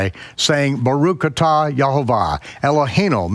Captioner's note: speaks in foreign language